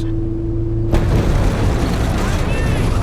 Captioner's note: IED explodes